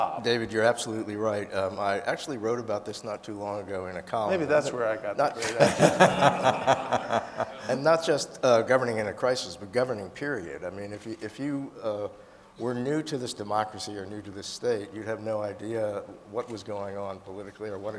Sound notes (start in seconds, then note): 5.4 panelists laughing; 5.4 audience laughing